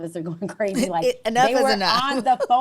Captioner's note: laughs